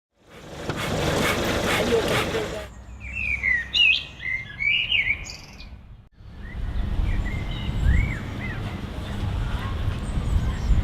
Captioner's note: birdsong